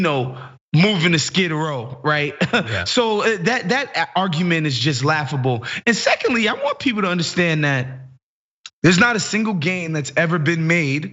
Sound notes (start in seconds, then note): 2.1 laugh